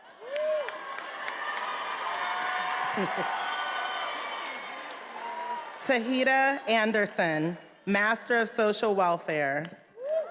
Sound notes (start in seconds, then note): 0.1 attendees applauding and cheering